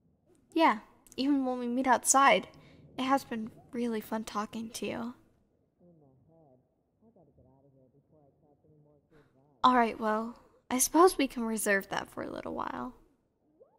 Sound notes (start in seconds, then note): none